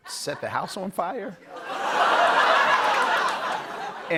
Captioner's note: audience ohh's, laughs